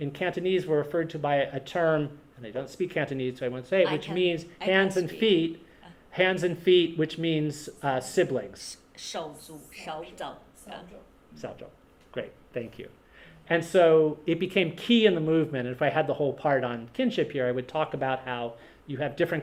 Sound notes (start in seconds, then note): 9.7 Speaks Cantonese